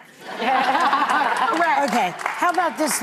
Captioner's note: audience laughing